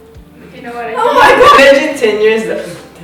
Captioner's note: loses it again